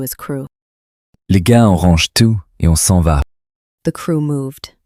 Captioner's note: French